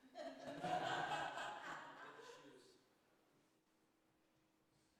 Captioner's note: people laughing